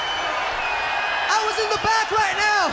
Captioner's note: crowd cheering